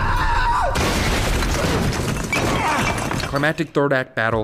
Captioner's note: screaming; crash